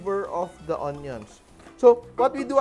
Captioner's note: sizzle